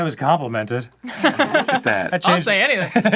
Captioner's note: laughing